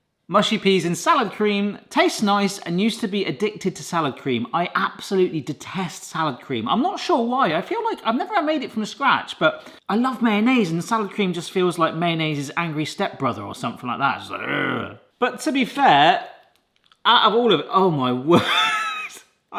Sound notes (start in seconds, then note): 14.3 growls; 18.3 laughs